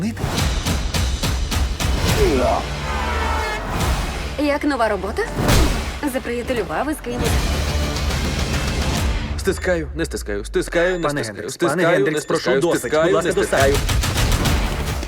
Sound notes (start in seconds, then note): 0.1 tense music playing; 2.6 horn honks